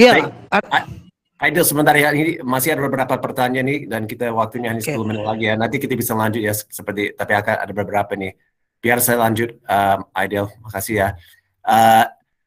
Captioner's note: non-english speech